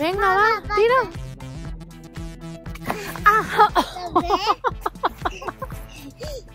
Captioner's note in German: lacht